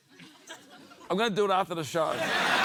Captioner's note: laughter